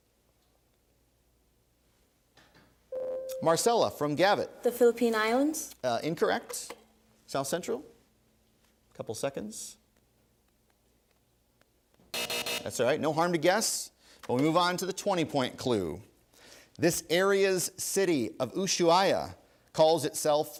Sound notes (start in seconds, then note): 2.9 ding; 12.1 three buzzes